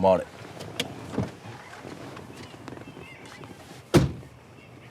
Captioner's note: car door clicks; car door bangs